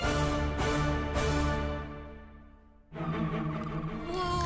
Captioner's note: applause